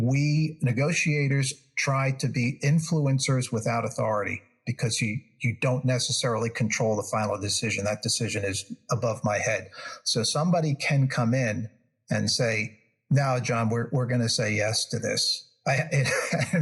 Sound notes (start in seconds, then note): 15.6 laugh